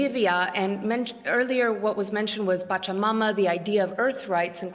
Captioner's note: non-english